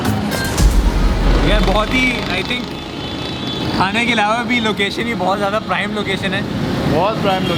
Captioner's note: sarcastically